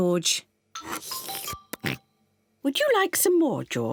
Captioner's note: slurps